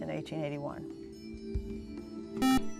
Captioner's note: buzzer